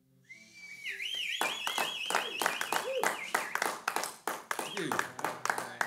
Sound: applause

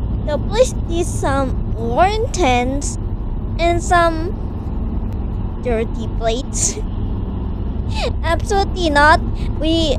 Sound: laughs

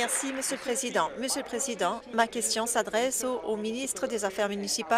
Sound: applause

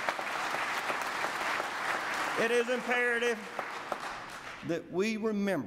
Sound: applause

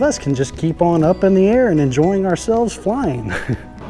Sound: chuckling

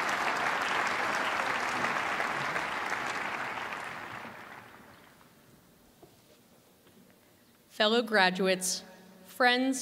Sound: cheers and applause

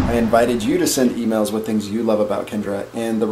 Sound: none

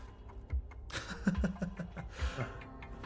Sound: laugh

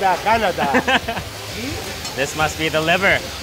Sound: laughs

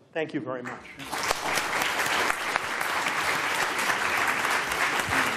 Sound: applause

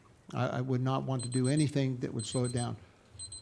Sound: timer beeping

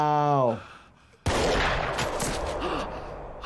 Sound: gunshot blares; Jesse gasps

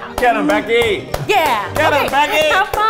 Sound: clapping

